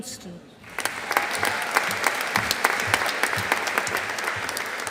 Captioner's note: audience applauding